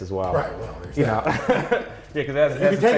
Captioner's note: laughs